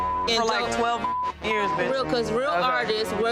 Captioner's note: beep